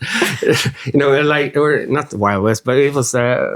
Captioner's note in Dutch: lacht